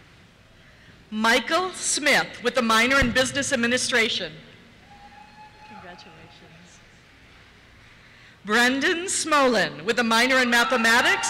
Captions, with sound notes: Michael Smith, with a minor in Business Administration. (cheers) - [Voiceover] Congratulations. Brendan Smolen, with a minor in Mathematics, (cheers)